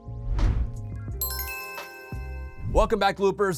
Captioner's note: chimes ringing